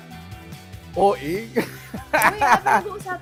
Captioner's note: laughs